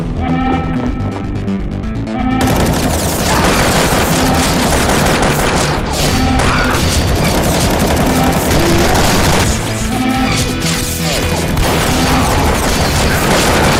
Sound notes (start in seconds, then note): 8.8 screams in Russian; 12.3 screams in American